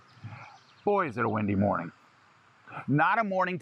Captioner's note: light breeze is audible